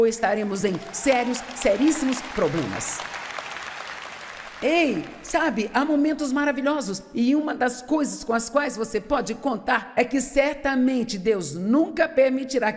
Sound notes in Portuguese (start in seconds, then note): 3.1 audiência aplaude